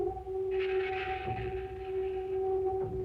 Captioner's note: none